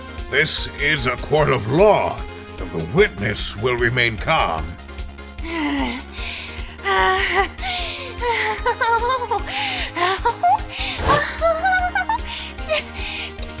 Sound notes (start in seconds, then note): 5.4 heavy breathing; 11.0 awkward laugh